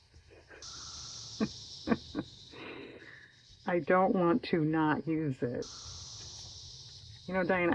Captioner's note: laughs